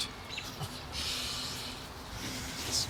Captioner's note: Chris chuckles